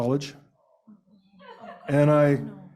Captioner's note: laughter